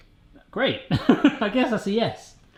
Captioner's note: laughs